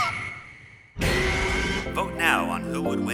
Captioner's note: T. rex roars